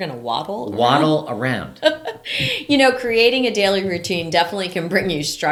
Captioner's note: laughing